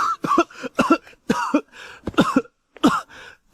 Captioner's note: cough, cough, cough